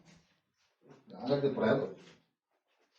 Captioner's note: playfully